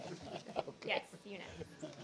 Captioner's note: laughter